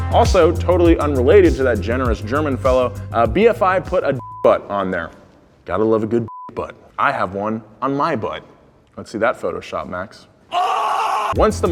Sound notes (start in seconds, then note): 6.2 beep; 10.8 voice of random guy yelling